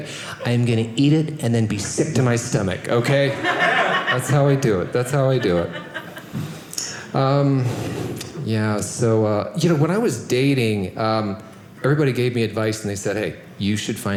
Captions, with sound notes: I'm going to eat it and then be sick to my stomach. That's how I do it. That's how I do it. (audience laughing) Yeah. So when I was dating, everybody gave me advice. And they said, "hey, you should find